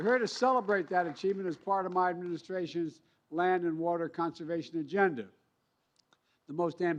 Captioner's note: cheers and applause